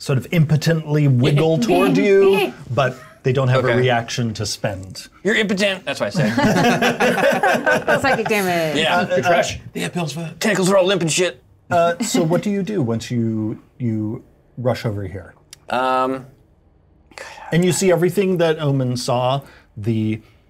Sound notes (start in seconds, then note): 6.2 laughter